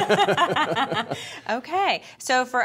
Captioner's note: laughing